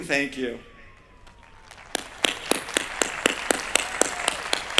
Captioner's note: applause